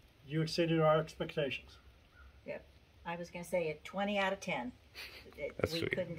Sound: giggles and whispers

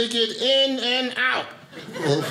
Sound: audience laughing

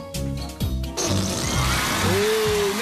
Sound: farting noise

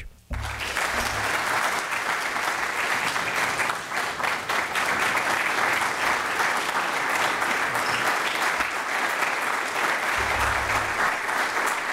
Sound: applause

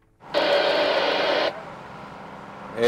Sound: radio static

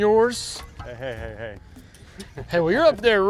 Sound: laughs

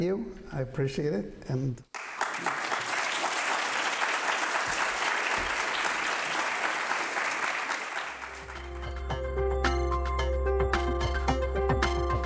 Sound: applause

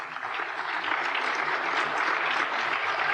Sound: applause

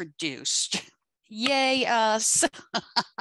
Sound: laughs

